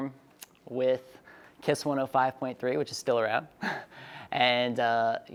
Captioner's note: chuckles